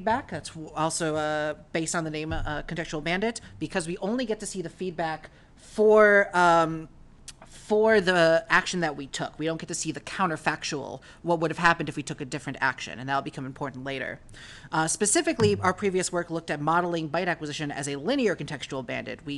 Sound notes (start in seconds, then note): none